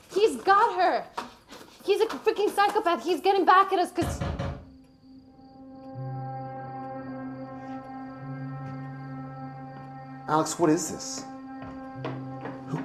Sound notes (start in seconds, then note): 4.1 tense music; 5.0 knuckles rapping